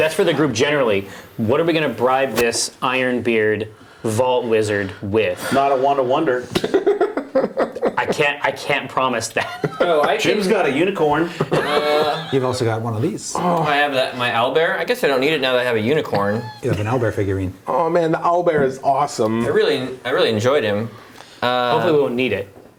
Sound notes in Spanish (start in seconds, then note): 6.5 risas